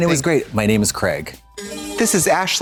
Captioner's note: bright chime